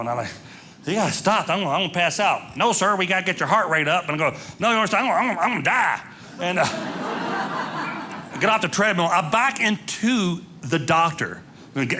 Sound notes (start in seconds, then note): 6.4 audience laughing